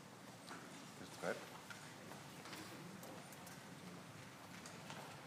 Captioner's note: speaking faintly